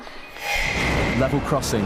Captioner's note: sreech